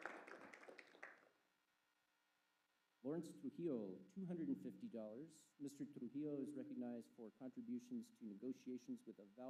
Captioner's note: applause